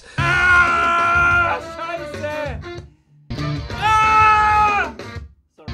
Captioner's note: screaming